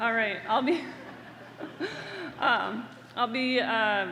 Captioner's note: laughter